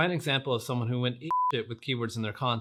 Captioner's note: beep